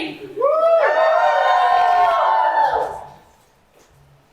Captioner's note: audience Cheers